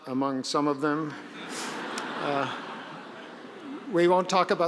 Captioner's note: audience laughing